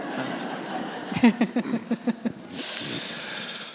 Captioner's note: audience laughing